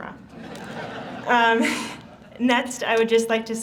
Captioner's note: audience laughs